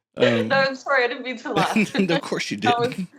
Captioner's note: laughing